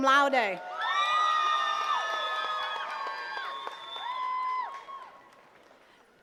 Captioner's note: attendees cheering and clapping